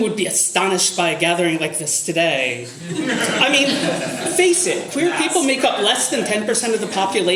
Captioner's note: audience laughter